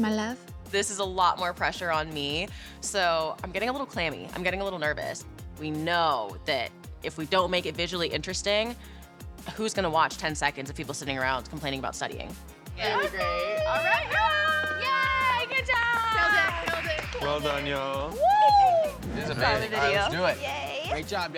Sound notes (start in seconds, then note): 12.9 shrieking